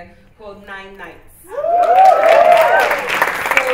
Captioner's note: cheering